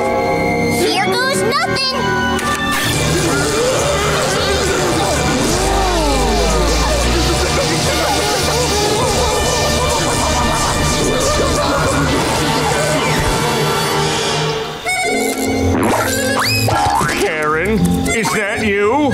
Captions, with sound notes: Here goes nothing! [screaming] Whoa! [screaming] Karen, is that you?